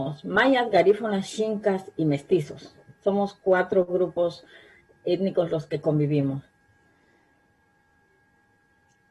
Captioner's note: spanish